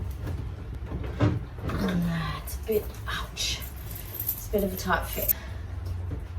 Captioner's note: plasticy creaking noises; keys jangle quietly